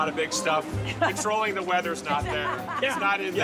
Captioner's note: laughter